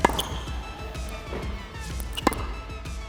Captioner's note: ball popping; sneaker squeaking; ball popping